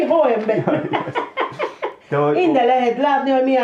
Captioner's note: chuckles